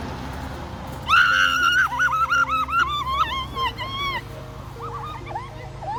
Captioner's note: screaming; crying